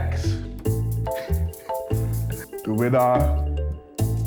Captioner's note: laughs